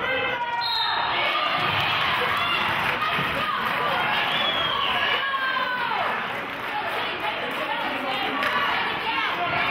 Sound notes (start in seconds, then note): 0.6 whistle blows; 1.1 players hollering; 1.6 clapping